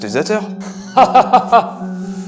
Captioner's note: laugh